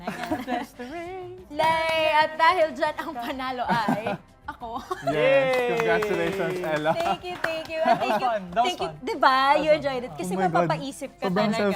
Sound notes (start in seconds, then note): 4.9 chuckles